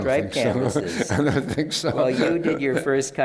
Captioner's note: laughs